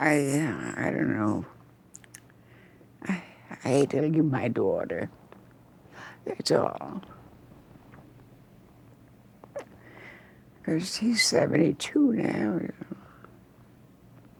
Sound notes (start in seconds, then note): none